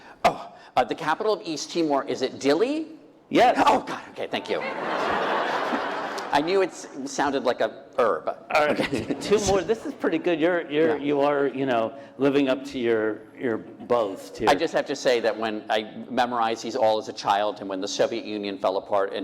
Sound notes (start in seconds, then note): 4.5 laughter